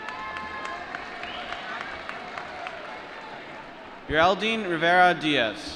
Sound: applause

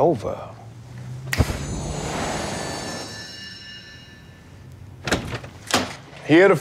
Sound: snapping; light twinkling

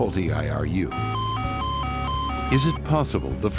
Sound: alarm blaring

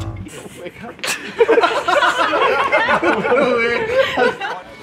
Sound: laughter

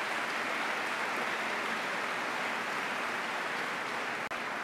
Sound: applause

